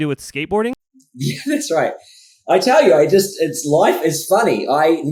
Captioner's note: laughs